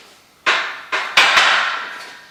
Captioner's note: weights Clicking